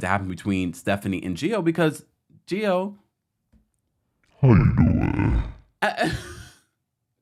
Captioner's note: monster sound effect